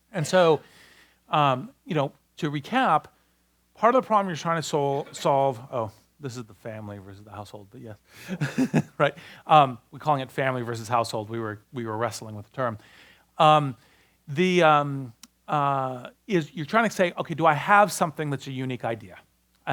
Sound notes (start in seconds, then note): 8.3 laughs